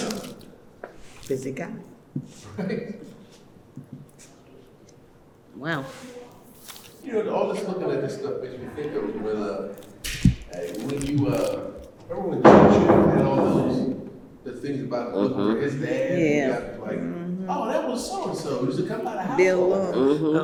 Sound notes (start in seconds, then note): 12.4 door close